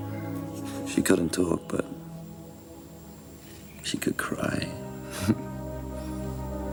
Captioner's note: laughs